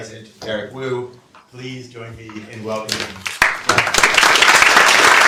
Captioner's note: applause